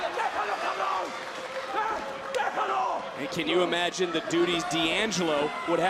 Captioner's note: foreign language